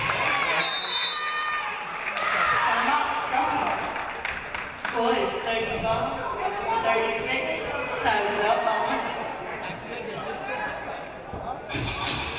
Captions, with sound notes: (audience cheering) (referee blows whistle) Score is 35-36.